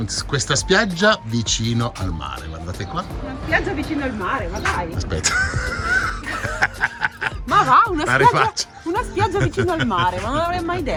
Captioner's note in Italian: Risate